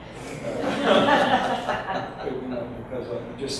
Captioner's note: audience laughs